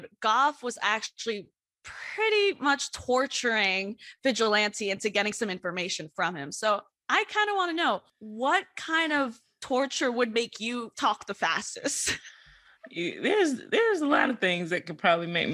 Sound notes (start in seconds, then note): 12.5 laughs